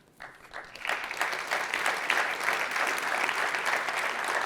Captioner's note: audience applauds